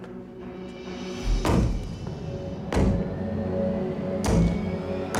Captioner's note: thudding